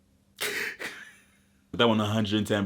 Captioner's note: mimics crying